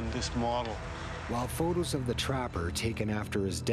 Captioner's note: voiceover